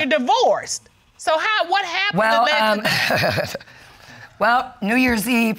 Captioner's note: chuckles